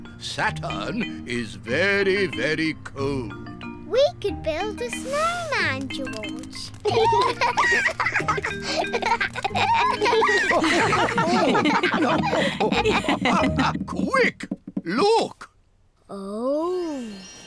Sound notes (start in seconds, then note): 6.8 both giggle; 11.6 all laugh